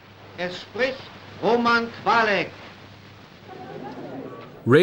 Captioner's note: speaking german